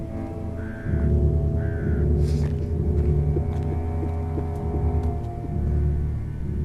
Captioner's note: Wolfram sobbing